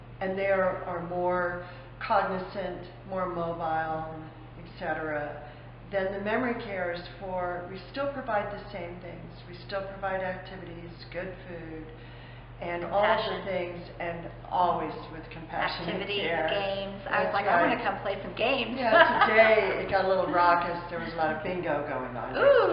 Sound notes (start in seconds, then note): 18.9 laughter